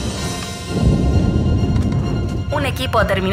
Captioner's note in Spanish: Explosión